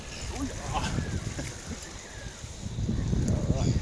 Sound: grunting

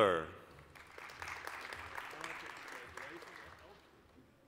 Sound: applause

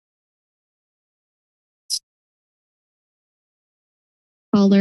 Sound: silence

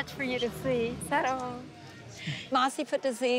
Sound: speaking foreign language

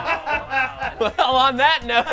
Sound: laughter

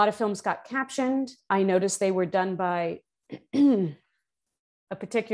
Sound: uhheem

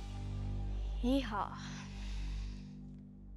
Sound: sighs

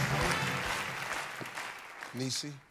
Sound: rhythmic clapping; clapping fades

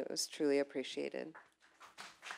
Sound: applause

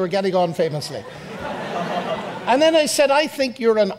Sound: audience laughs

